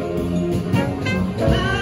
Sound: horns blaring

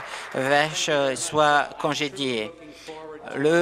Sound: applause

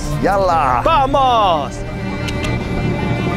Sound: in Arabic

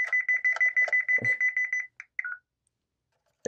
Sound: beeping

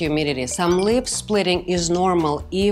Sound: chimes twinkling

